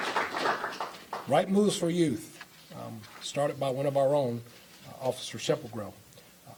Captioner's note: applause